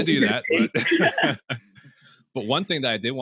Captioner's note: chuckles